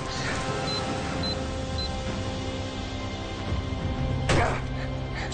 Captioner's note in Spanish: Pitidos